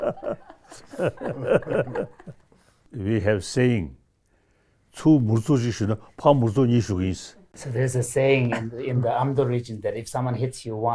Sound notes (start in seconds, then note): 3.5 speaks in Tibetan